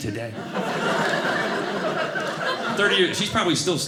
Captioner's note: audience laughing